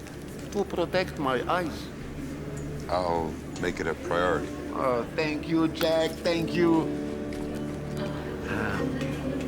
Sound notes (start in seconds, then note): 7.0 airport announcer chattering; 7.0 gentle music